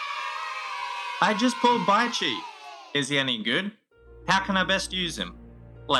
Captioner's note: cheer